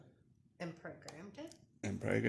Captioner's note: whispering